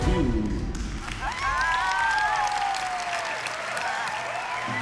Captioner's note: whooping, applause